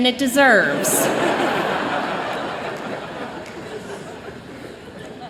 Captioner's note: laughter